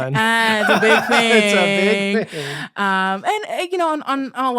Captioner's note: both laughing